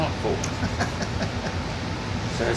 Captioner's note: laughs